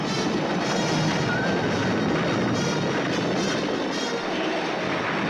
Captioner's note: horses whinny; horse whinnies; suspenseful orchestral music continues